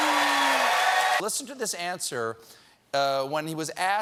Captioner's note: cheers and applause